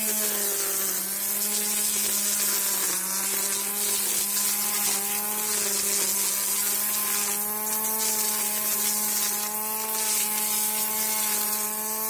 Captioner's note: strimmer noises